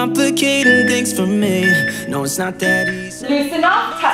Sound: timer beeping

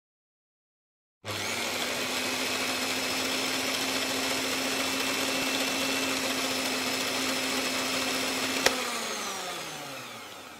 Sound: sound of electric whisk

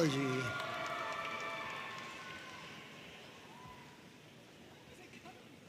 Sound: audience cheering and applauding

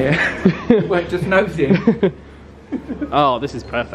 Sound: laughs

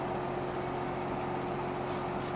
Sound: light breeze sounds

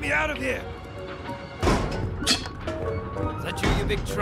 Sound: Musky scoffs; Plumbum bonks against the door

